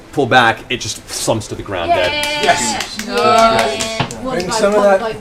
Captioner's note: cheering